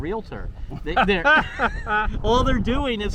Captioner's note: both laughing